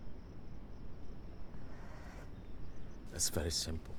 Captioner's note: none